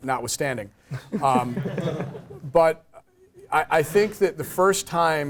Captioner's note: laugh